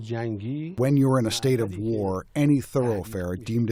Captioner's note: through translator